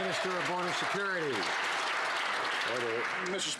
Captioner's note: some Applause